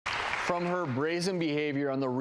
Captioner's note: applause